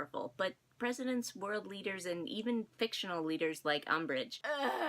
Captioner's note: ughhh